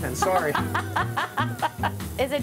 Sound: laughing

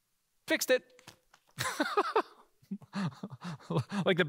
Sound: laughing

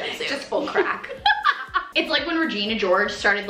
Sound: laughs

